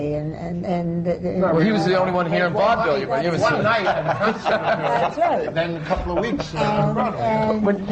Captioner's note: laughter